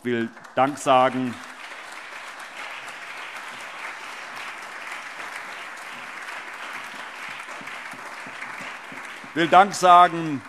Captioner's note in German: Allgemeiner Beifall